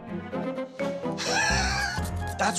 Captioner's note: chuckles